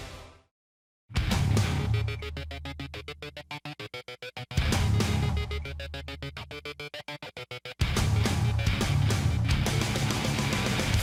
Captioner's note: crowd cheering